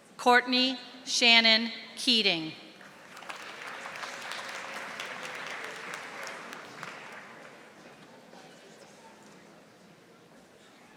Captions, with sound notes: Courtney Shannon Keating. (audience applauding)